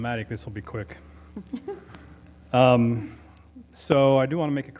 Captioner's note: laugh